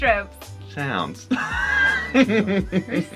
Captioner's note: laughs